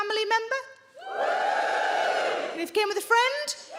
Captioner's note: audience woos